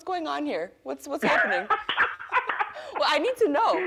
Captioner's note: laughing